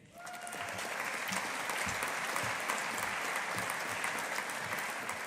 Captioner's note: audience applauding